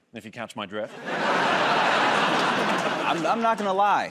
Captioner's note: laughter